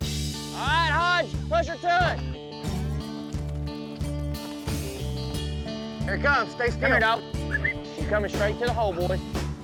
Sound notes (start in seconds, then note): 7.4 whistles